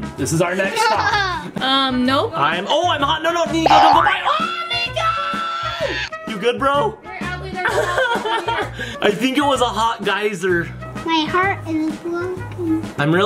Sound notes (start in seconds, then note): 0.8 laughing; 6.9 laughs